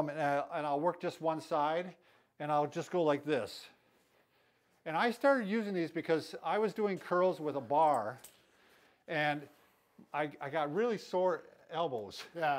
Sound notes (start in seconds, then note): none